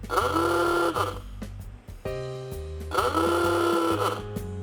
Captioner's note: horn honking